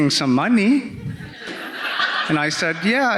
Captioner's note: audience laughing